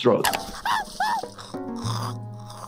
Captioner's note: straw slurping; Cuddles screaming